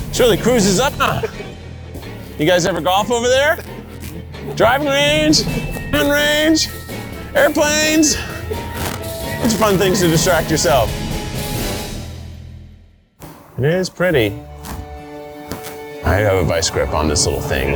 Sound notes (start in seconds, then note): 0.6 trainer laughing